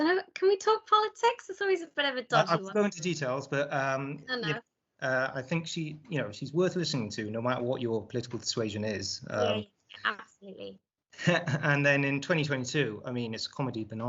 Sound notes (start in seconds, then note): 3.2 defensively; 11.2 laughs nervously